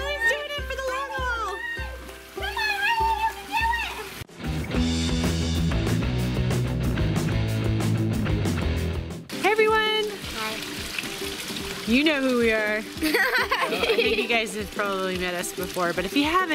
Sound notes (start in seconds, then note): 4.2 rock music; 13.0 laughing